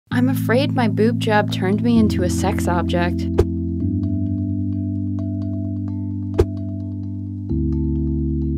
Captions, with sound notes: - [Voiceover] I'm afraid my boob job turned me into a sex object. (soft calming music)